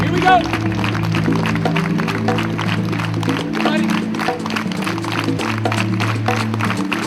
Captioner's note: audience clapping; exciting music